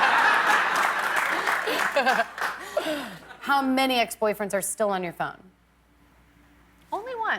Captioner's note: laughter